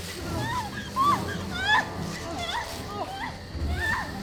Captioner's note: crying